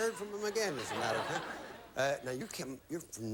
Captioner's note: audience laughing